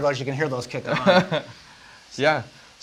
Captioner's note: laughing